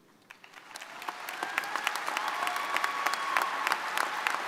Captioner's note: crowd cheering